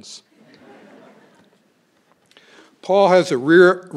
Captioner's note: crowd laughing